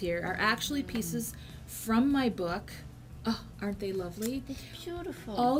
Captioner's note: gasps